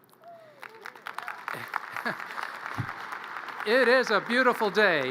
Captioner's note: audience cheers and applause